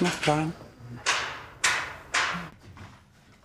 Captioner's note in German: Hämmern im Hintergrund